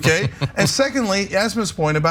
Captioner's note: laugh